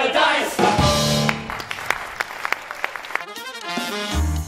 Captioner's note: applause